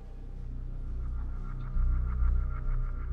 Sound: none

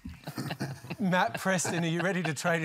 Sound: laughter

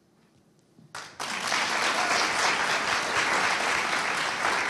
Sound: audience applauding

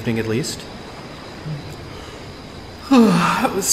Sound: yawns

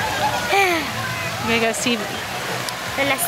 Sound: sighing

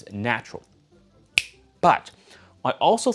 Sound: snapping fingers

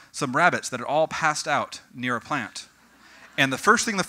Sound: audience: Growing laughter

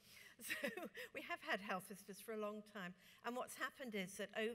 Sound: laughs

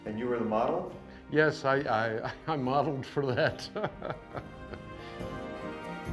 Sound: laughs

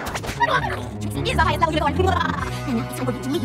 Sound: robotic laughter

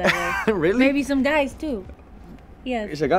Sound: laughs

